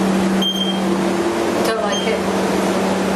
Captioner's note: device beeping